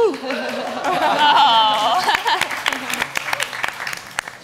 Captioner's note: audience applauds